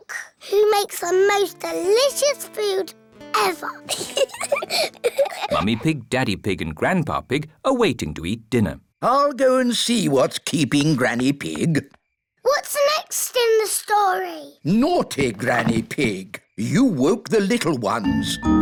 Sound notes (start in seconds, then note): 3.8 both giggle